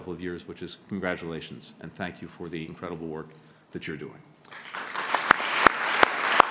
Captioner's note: applause